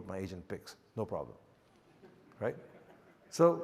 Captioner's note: audience chuckles